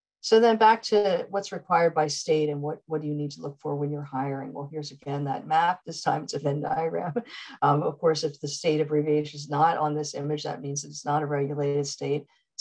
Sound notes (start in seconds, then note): 7.1 chuckles